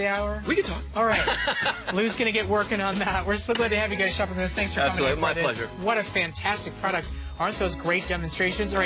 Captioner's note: laughter